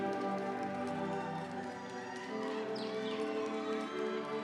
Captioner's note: crowd cheers